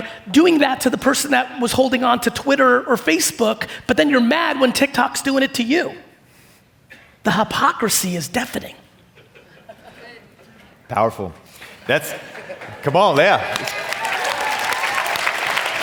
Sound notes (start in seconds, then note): 11.6 audience clapping